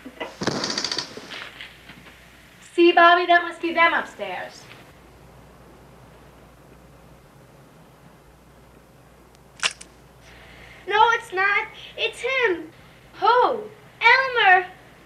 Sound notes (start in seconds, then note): 0.2 boom; 9.7 splat